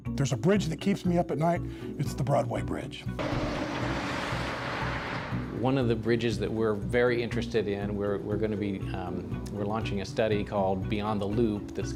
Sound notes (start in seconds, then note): 0.0 pensive music; 3.2 sounds of vehicles passing